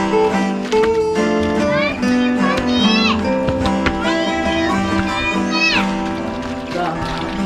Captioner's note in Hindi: एक बच्चा चिल्लाता है